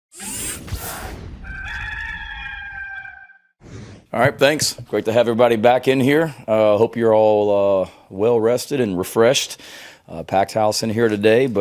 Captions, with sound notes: (logo whooshing) (cock crows) - Thanks, great to have everybody back in here. Hope you're all well rested and refreshed a packed house in here today,